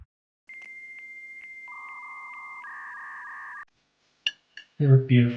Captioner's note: modem humming